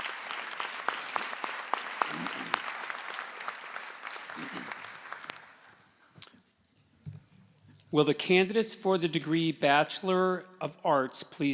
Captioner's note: applause